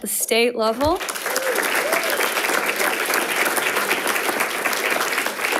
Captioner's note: audience applauding